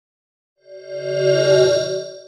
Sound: swoosh

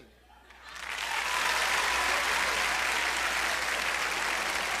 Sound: audience applauding

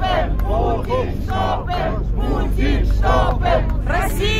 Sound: chanting

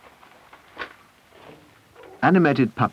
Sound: metal clanking

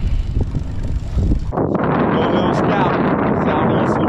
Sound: windy

